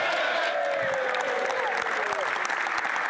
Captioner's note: applause